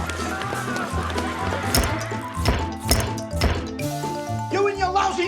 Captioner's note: camera clicking; fast paced music